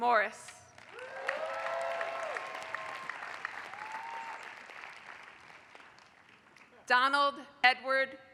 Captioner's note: applause